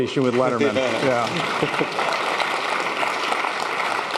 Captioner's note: applause